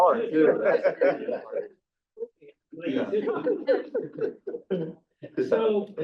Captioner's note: board members laughing